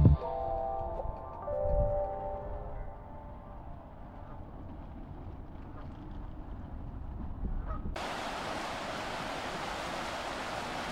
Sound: upbeat music; wind blowing

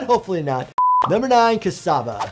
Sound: video beeping

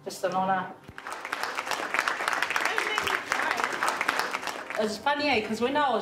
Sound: audience applauding

